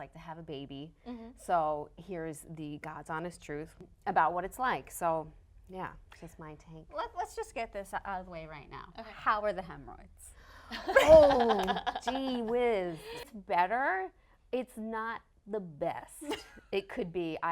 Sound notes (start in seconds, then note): 10.9 laughing